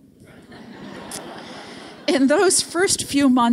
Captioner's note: audience laughing